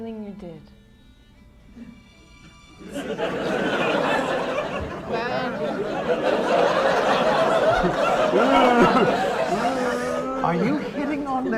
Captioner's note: laughter